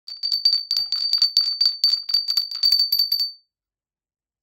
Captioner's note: bell ringing